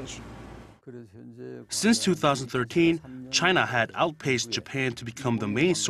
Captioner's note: Korean